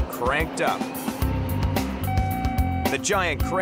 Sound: machine beeping

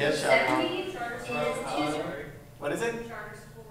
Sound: chatter

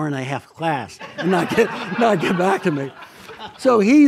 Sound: audience laughs

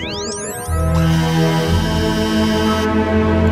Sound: electric motors

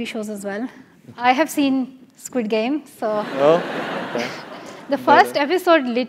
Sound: laugh

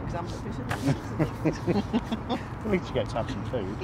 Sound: laughter

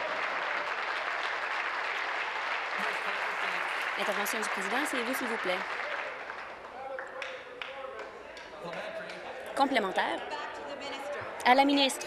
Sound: applause

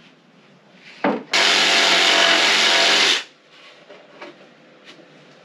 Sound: power tools

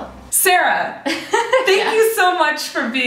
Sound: laughter

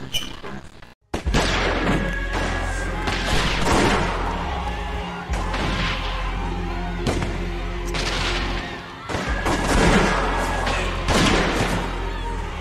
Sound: screams of perishing Communists

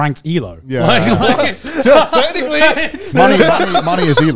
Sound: group chattering

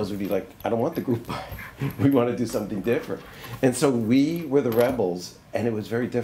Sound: laughs

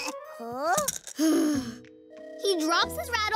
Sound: heavy sigh

